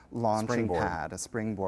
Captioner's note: voiceover